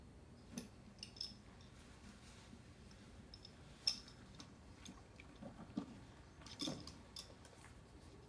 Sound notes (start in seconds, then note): 1.1 spurs clattering